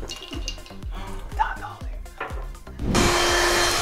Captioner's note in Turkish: kısık sesle